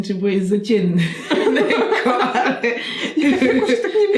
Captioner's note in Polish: śmiech